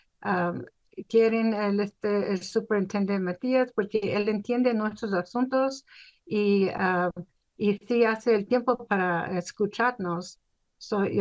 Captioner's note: speaking spanish